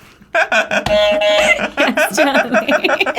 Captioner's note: laughing; buzzer honks